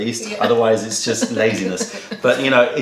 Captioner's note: laughter